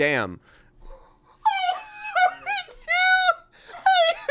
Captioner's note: laughs